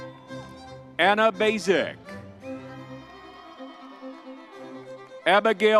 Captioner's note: crowd cheering